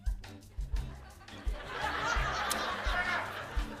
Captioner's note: laughter